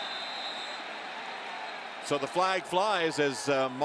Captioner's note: whistle blowing